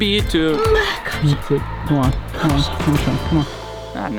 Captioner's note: grunts